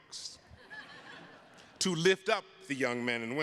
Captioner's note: attendees laughing